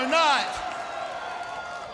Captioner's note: crowd cheering